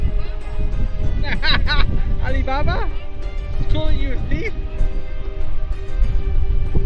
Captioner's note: laughing